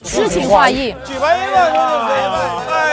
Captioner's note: laughs